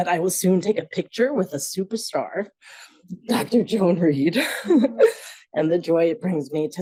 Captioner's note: laughs